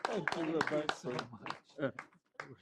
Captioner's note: applause